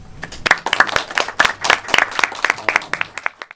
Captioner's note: clapping